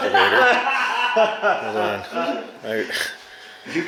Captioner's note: laughing